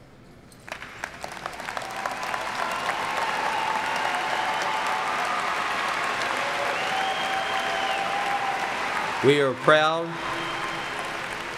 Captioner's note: applauding